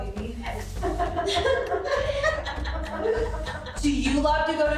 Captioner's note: laughing